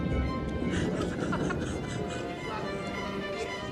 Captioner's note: <i> thunder rumbles</i>